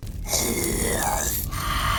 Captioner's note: growling